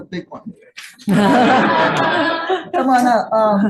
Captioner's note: audience laughing